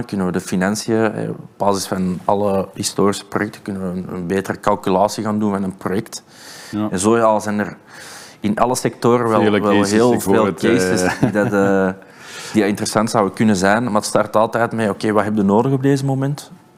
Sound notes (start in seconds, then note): 9.4 laughs